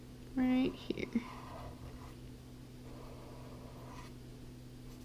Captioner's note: pen scratching